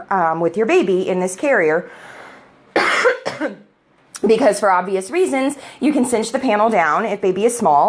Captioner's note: coughs